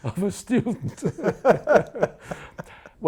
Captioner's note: laughing